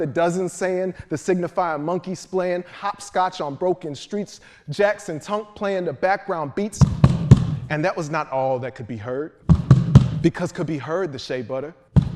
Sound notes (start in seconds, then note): 6.8 feet stomping; 9.4 feet stomping